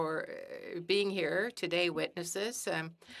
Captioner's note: speaking French